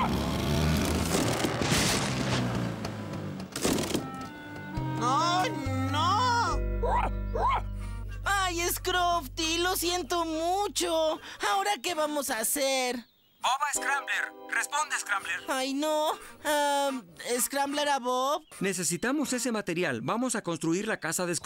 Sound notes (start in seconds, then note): 0.8 crash!; 6.8 barking